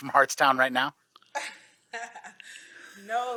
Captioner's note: laughs